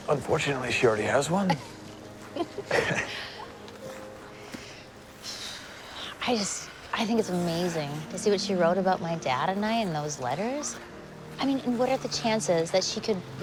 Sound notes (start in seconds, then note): 2.2 both chuckling